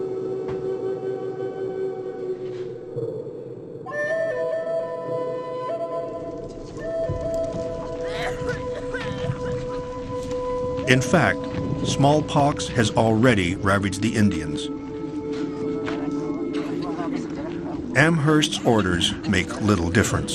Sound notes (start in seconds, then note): 6.1 fire crackles; 7.5 woman coughs